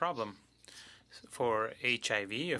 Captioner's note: speaking French